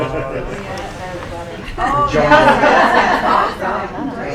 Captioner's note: audience Talking